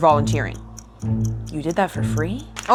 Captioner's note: clock ticks